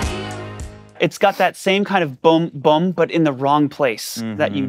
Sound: bass imitation

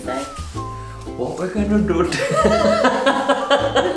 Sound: weird voice; laughs

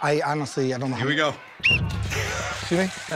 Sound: whistle blows

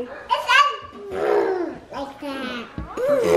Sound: blowing

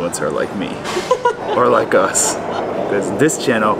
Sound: laughs

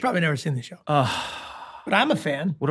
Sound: glenn sighs

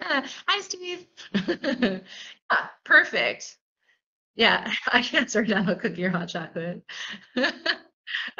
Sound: laughter

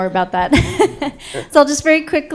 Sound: laughter

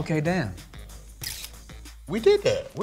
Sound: camera shutters

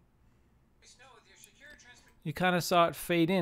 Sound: podcast playing

